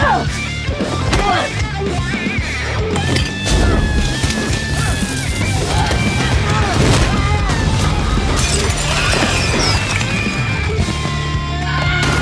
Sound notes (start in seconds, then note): 0.2 upbeat rock music continues; 3.5 explosive flares; 7.0 house explodes; 7.6 glass breaks